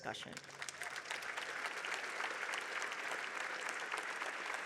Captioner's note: audience clapping